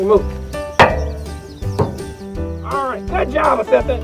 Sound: metal clang

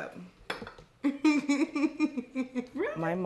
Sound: laughing

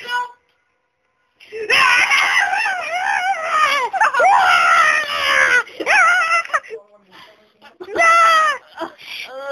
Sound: baboon attacking

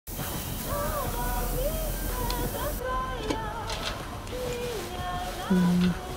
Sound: iron hissing; tinny upbeat music

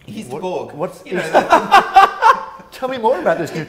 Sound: laughs

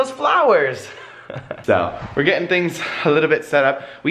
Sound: laughs

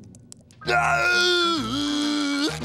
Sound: loud groaning

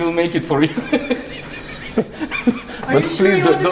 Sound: laughing

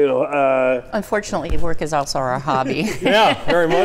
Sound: laughs

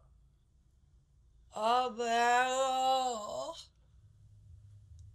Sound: Franky groans

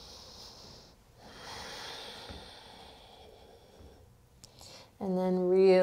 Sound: heavy breathing

